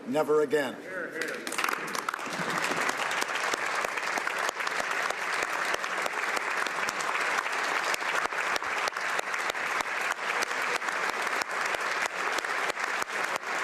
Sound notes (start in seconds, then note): 6.5 some Applause; 11.4 applause